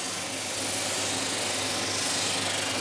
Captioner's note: grinding whirring